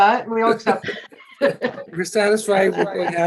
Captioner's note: laughing